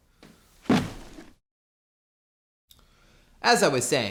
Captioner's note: thud